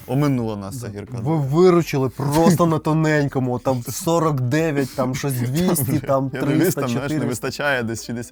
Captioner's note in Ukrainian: сміх